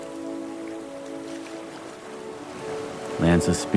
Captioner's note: waves lapping